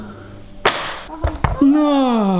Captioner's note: smack